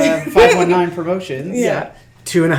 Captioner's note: laughs